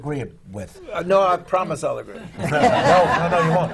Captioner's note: laughter